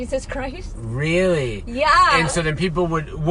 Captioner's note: laughs